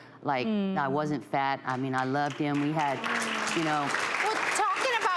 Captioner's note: audience clapping